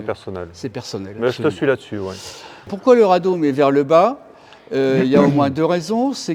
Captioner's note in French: grognement